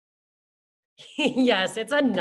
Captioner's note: laughs